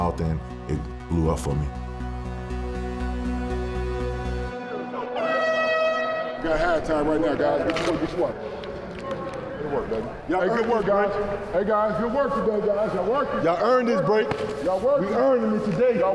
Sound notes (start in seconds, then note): 2.2 intensifying music; 5.1 buzzer wailing